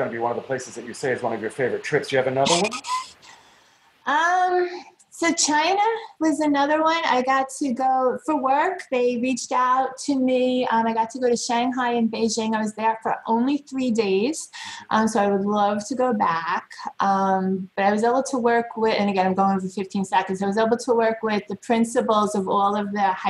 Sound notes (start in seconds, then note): 2.4 laughs